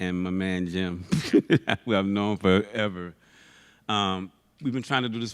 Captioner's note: laughs